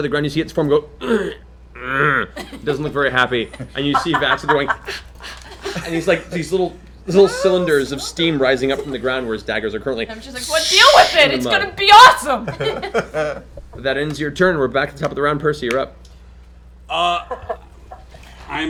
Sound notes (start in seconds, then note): 1.7 groans; 4.8 gasps; 9.9 sizzling noise